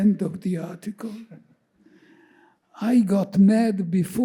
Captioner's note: chuckling